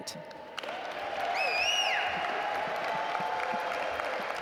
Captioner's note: audience applaud